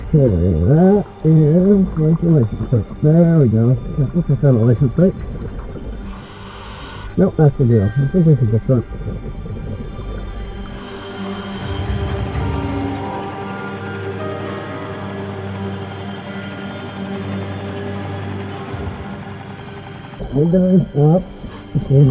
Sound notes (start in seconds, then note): 10.0 suspenseful music continues; 14.1 boat motor hums